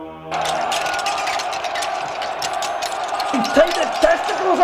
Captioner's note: metallic battle sounds